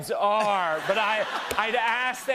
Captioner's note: laughter